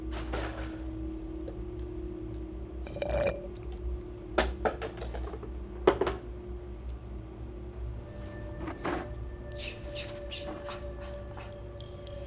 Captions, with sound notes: [sips] [ominous music] - [whisper] ch ch ch ah ah ah